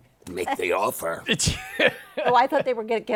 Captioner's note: laughs